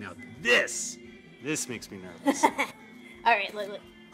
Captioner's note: Keely laughs